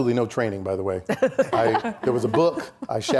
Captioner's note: laughing